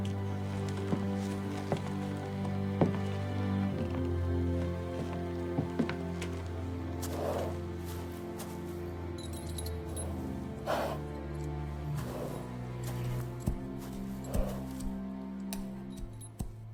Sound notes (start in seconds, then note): 0.1 pensive music continues; 7.0 horse snorts; 8.8 pensive music continues; 9.8 metal clanks; 10.4 horse snorts; 11.2 pensive music